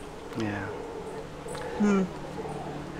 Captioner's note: monkey roar